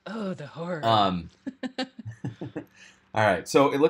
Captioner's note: chuckles